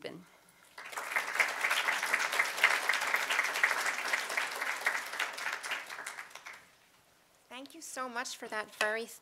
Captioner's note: applause